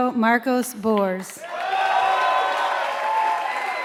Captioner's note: applause